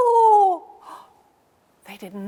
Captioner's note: gasps